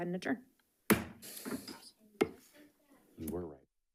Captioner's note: gavel bangs